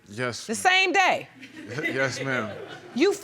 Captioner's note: audience chuckling